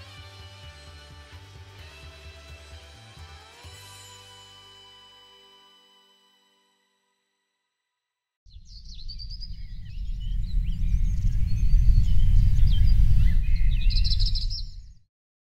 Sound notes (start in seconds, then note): 10.5 birds Chirping